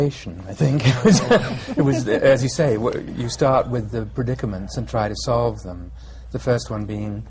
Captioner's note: laughter